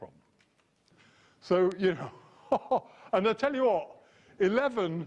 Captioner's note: laugh